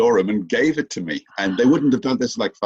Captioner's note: gasps